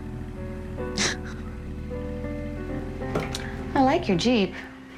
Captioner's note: laughing